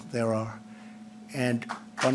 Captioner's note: applause